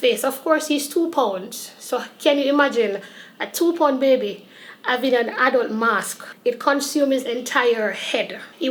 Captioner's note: none